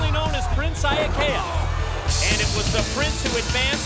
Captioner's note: crowd cheering